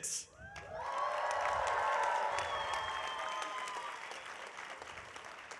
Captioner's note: audience cheering